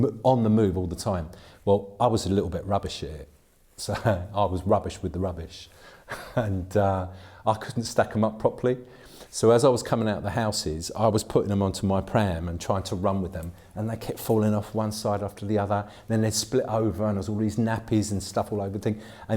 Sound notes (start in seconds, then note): 6.1 chuckles